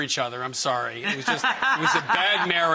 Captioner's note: laughs